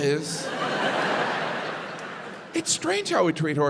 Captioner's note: crowd laughs